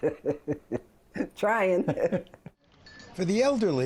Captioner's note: laughter